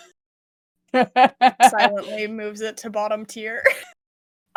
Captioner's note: laughs